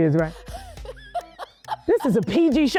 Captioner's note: laughing